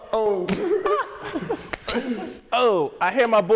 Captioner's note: laughing